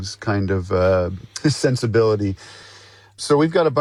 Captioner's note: chuckles